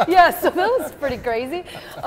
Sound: laughter

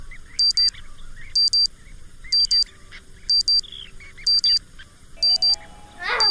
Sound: alarm ringing

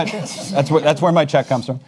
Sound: panelists laugh

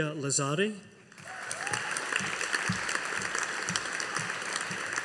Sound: audience applauding

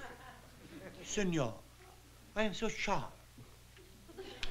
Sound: italian accent

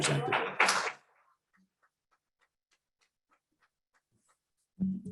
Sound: applause

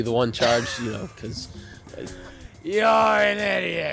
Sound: wheeze

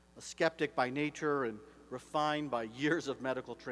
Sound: none

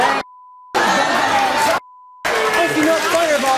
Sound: audience jeers

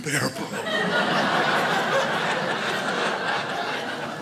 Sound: crowd laughs

